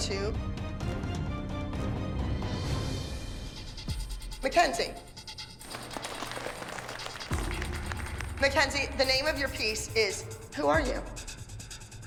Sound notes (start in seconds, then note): 0.0 dramatic music; 5.6 applause